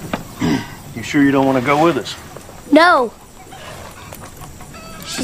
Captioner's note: clears Throat